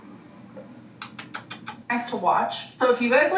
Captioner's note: smacks lips